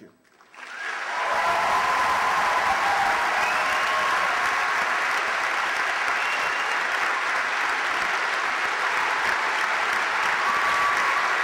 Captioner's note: applause, cheers